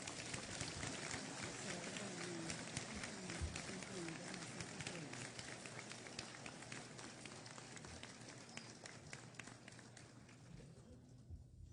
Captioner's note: applause